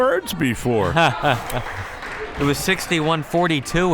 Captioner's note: laughs